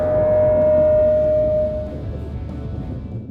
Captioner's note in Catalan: La música baixa i s’escolta un timbre agut i constant